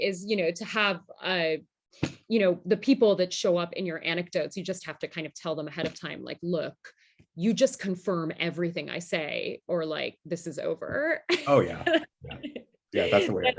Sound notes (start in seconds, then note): 11.3 laughter